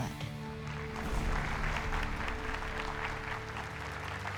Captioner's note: applause